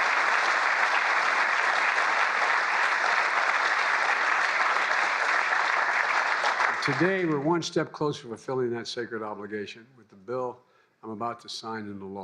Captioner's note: applause